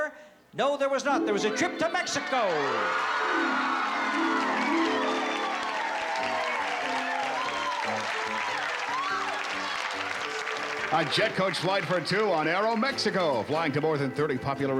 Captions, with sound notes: No, there was not. There was a trip to Mexico. [cheering] - A jet coach flight for two on Aeromexico, flying to more than 30 popular resort